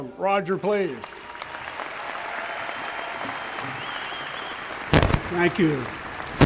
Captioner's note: applause